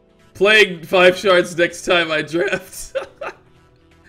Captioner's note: laughs